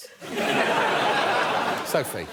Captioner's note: laughter